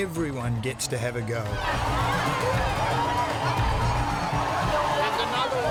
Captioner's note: people and children shouting